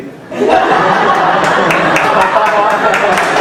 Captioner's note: laughing